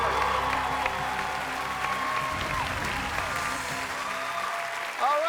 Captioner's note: cheers and applause